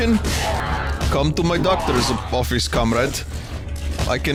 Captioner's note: Russian accent